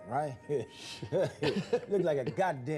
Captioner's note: laughing